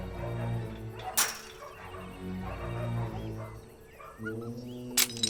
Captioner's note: metal clanking